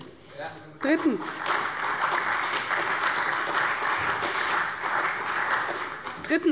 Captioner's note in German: Beifall bei der CDU und dem BÜNDNIS 90/DIE GRÜNEN